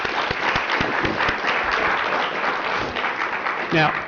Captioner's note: applause